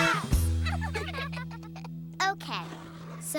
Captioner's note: all giggle